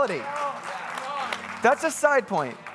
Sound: congregants cheering

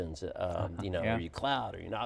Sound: laughs

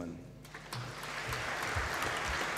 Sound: applause

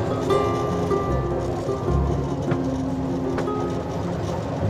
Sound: train chuffing

